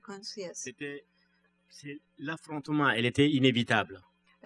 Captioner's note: speaking french